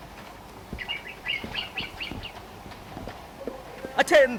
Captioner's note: birds chirping